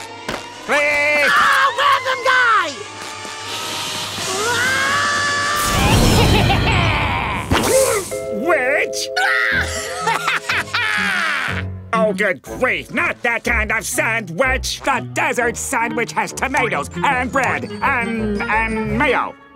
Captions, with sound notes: - Re-- - Ah! Random guy! [screaming] [laughing] Witch? [laughing] Oh, good grief! Not that kind of sand witch! The Desert Sandwich has tomatoes and bread and, and mayo.